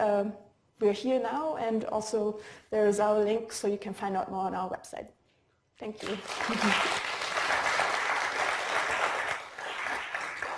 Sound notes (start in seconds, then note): 5.9 applause